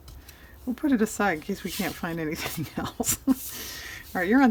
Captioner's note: laughs